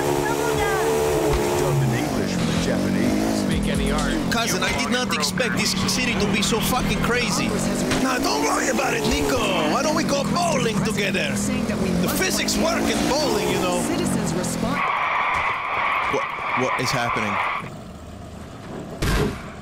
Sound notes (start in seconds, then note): 14.9 tires screech; 18.7 kick sound